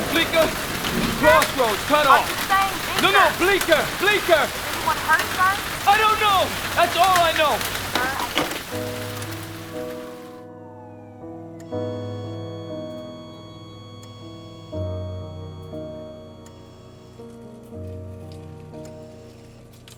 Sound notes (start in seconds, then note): 8.2 somber piano music; 11.5 flat-line tone; 13.8 heart monitor beeping rythmically